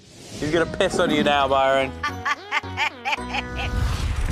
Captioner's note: Sharon laughs